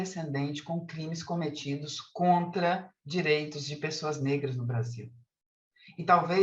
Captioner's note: continues speaking in Portuguese